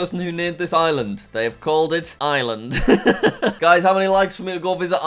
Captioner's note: laughs